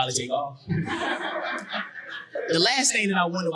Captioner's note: audience laughing